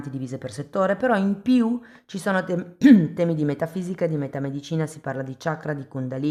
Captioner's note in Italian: schiarire la voce